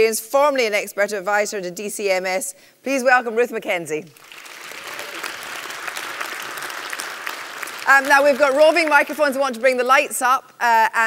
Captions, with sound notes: formerly an expert advisor to DCMS. Please welcome Ruth Mackenzie. (applause) Now, we've got roving microphones, we want to bring the lights up,